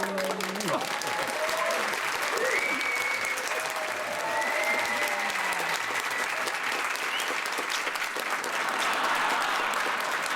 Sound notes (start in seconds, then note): 2.4 whistling; 4.7 cheering